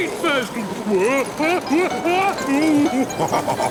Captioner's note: shouting; laughing, snorting